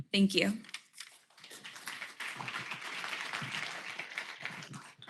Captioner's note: applause